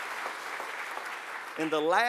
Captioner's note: applause